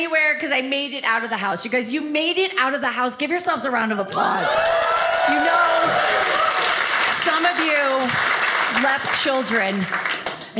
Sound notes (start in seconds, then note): 4.2 audience cheers